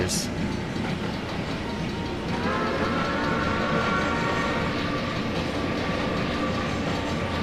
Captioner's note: NH I-5 whistle